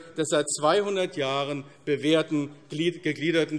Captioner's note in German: none